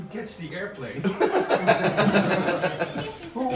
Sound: laughter

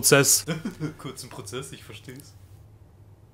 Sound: laughs

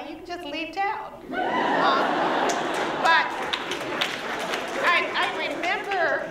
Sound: laughter

